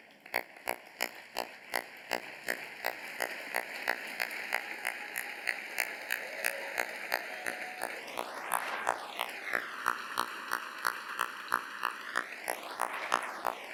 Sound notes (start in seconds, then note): 0.6 applause